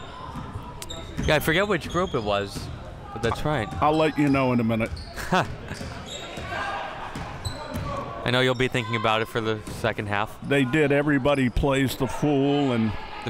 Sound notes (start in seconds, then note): 5.2 laughing